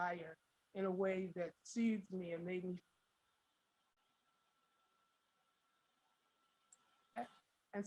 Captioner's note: audio drops